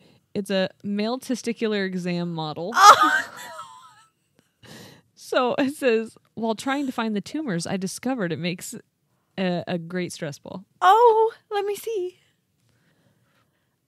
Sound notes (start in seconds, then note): 2.8 wheezing